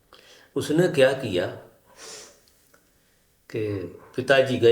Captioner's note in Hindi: नाक से की जाने वाली आवाज़